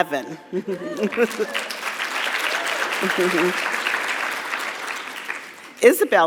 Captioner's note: chuckles; audience cheering; audience clapping